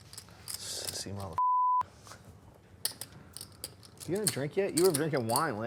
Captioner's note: beep